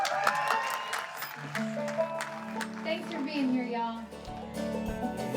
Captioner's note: audience applauds and cheers